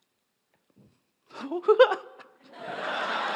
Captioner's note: laugh